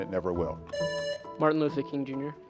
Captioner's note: presses buzzer